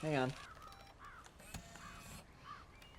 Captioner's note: camera beeps